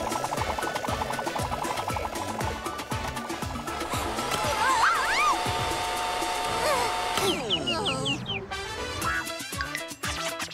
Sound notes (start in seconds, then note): 4.2 shouting